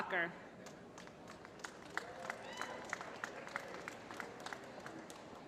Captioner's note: applause